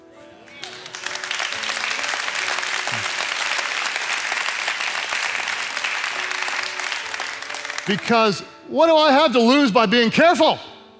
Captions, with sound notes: (congregation clapping) (peaceful music) Because what do I have to lose by being careful?